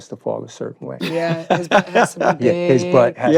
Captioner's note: laughs